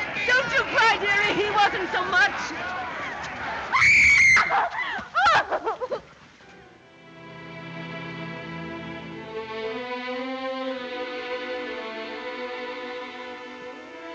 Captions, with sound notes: Don't you cry, dearie. He wasn't so much. [screaming] [mellow music]